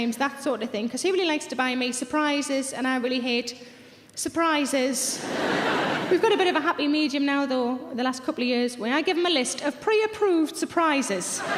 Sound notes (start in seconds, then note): 5.2 audience laughs